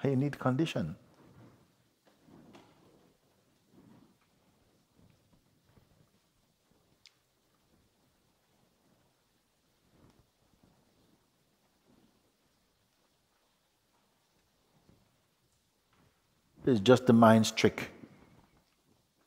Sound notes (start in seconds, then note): 8.3 silence